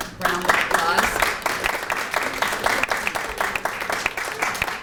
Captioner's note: applause